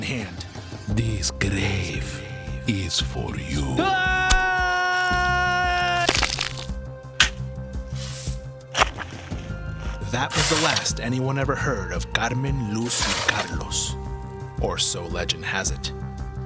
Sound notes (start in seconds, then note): 3.8 screams; 6.0 bones crunching